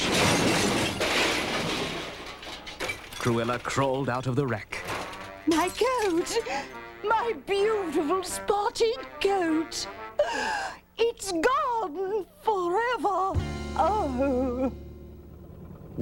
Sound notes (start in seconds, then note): 0.0 crash; 10.2 gasps; 13.3 sighs